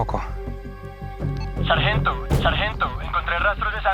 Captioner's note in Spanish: Voz en la radio